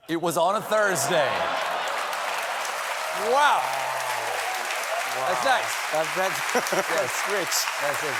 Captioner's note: applause